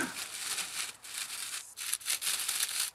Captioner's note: rustling